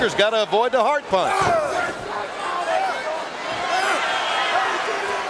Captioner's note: audience cheering